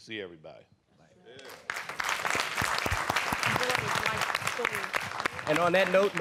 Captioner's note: applause